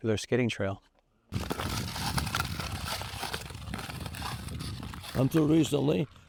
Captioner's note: skate blades carving ice